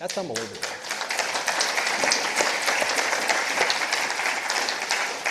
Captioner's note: participants applauding